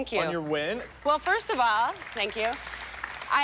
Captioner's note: applause